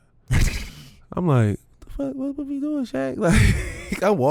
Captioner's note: laughs